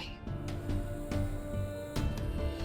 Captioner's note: poignant vocalisation